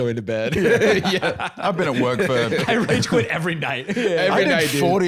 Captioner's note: laughs